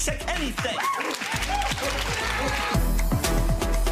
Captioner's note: audience cheering; dramatic music